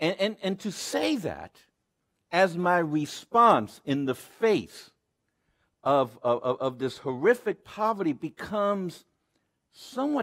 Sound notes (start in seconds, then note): none